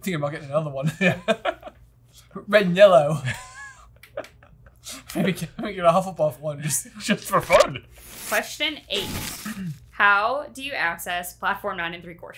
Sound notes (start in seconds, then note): 3.2 both laughing